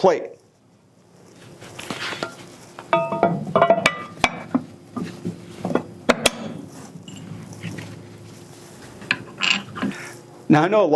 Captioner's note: sounds of metal on metal